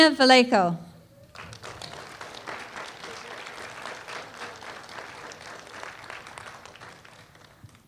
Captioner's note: applause